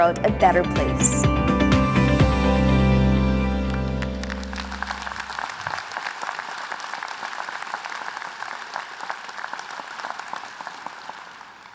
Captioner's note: applause